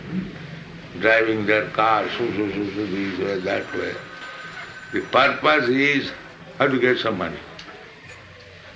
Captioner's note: makes noise of cars